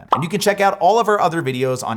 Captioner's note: bubble pops